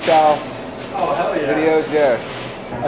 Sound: voiceover

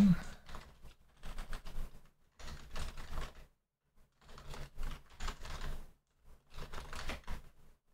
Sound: typing

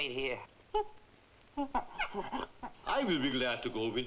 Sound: gorilla chittering

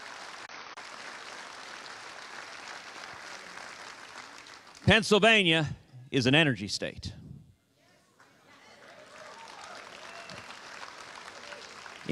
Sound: applause

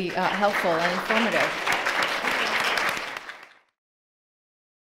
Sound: audience applauds

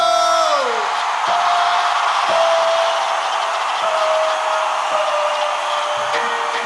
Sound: crowd cheers

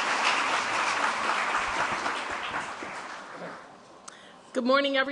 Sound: applause

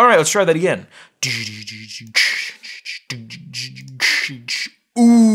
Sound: beatbox sounds

